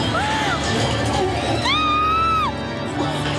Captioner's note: screaming